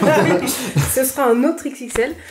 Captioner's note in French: rire